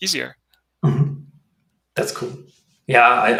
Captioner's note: clears throat